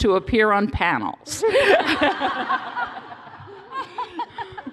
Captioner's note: laughter